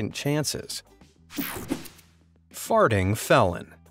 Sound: air whooshing

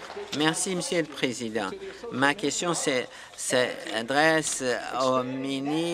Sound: applause

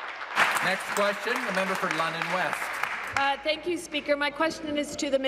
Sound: applause

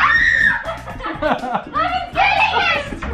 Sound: laughing

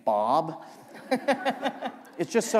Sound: laughter

